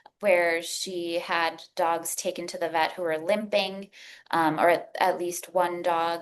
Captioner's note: none